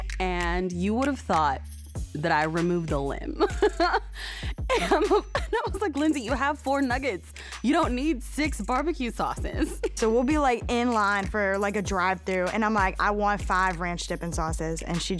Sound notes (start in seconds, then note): 3.1 laughs